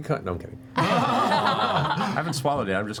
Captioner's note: laughter